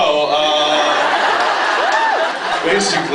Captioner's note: laughs